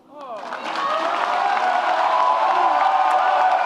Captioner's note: audience cheers